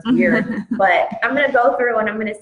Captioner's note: chuckles